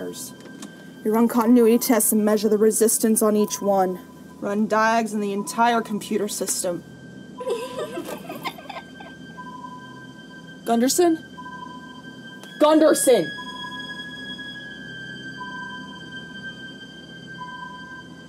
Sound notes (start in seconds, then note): 7.4 child giggles; 14.0 light dramatic music continues